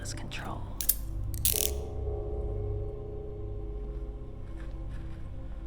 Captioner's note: handcuffs click; suspenseful music